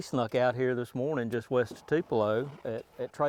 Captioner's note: none